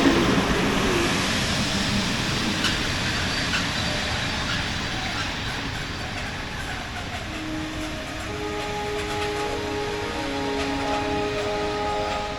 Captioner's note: train Arriving Sounds